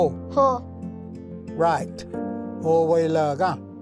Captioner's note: repeats in Cherokee